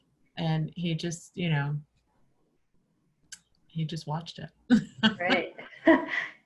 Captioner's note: laughs